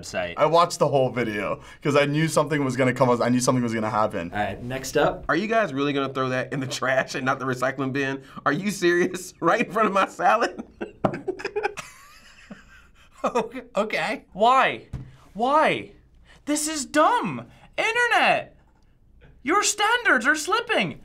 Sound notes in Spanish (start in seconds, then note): 9.5 risas; 9.5 Riendo entre dientes